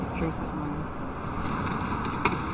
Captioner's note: footsteps